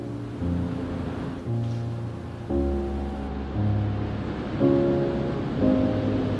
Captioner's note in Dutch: Geluid van golven samen met muziek